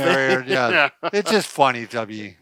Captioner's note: laughing